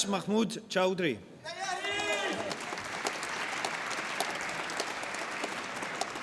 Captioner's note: applause